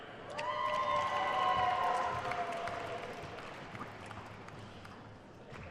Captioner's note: attendees cheering and applauding